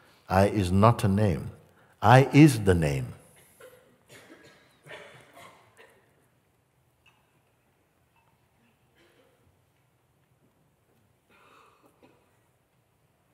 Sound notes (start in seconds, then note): 5.1 silence